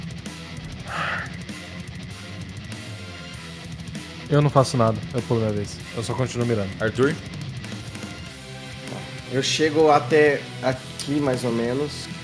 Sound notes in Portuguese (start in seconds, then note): 0.8 Suspiro